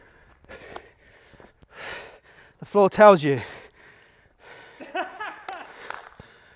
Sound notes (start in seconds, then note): 4.8 background laughing